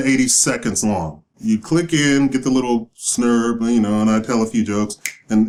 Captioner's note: snap